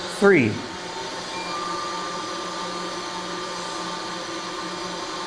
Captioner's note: pipes hum